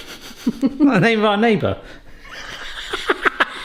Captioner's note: laughs